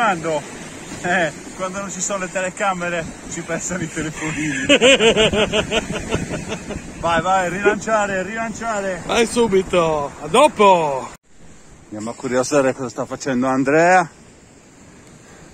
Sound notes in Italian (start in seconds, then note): 4.1 Risate